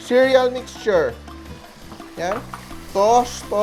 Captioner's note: sizzle